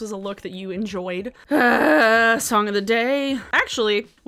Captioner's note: groans